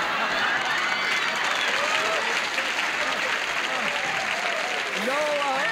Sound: laughter

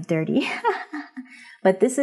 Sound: laughs

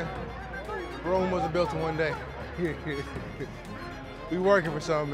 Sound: laughs

